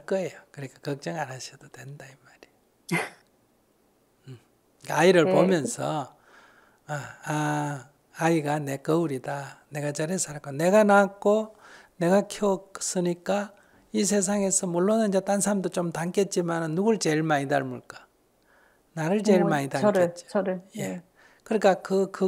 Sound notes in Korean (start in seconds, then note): 2.6 질문자 웃음